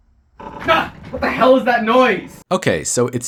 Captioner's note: extremely loud clicking